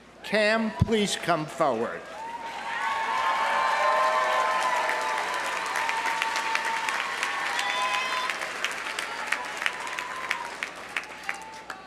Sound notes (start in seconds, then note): 2.1 audience cheering; 2.2 audience applauding